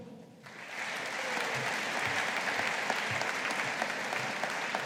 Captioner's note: audience applauding